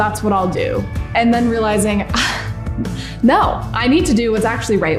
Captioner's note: scoffs